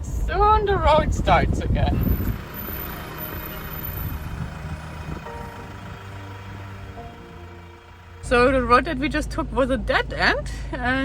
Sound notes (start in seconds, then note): 2.0 inspirational music; 3.0 car rumbling